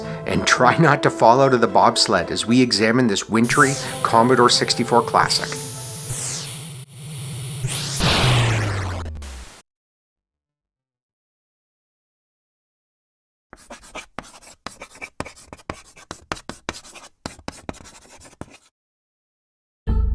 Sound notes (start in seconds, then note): 7.6 C64 sound of Bobsled crashing; 13.5 chalk writing on chalkboard; 19.9 funky, bass-heavy music